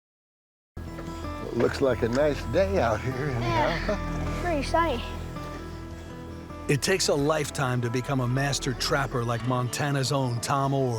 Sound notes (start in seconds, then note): 2.8 chuckles